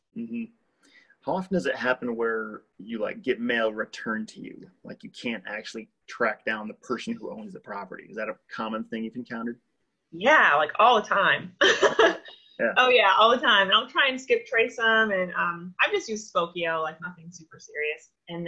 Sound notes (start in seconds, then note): 11.6 laughs